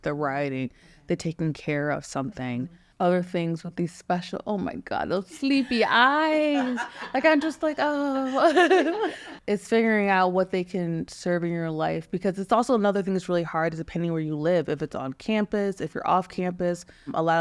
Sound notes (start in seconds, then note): 6.2 people laughing; 6.4 laughs